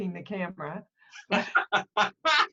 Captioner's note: laughter